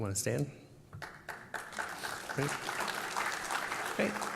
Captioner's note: applause